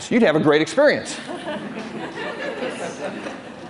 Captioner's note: laughter